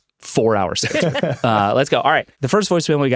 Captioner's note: all laughing